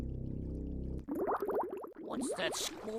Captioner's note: bubbling